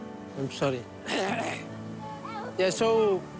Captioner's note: clears throat